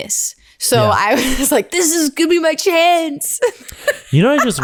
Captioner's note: laughs